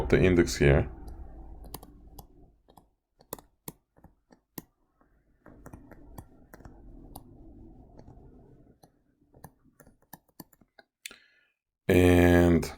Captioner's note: typing and Background Sounds